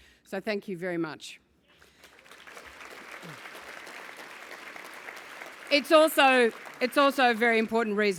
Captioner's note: applause